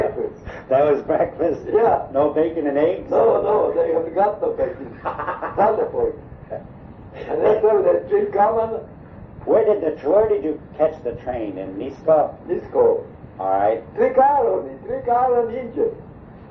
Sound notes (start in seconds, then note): 0.9 lauging